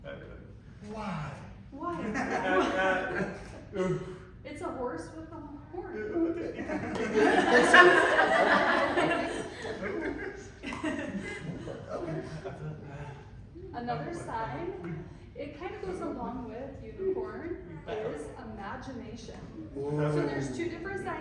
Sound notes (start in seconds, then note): 6.1 laughter